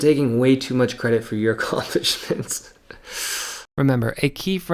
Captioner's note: laughs